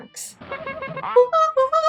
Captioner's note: honking; rapid honking